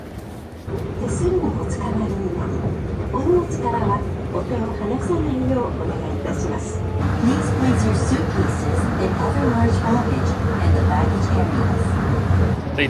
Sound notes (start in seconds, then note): 1.4 announcer speaking in a foreign language